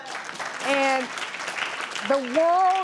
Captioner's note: applause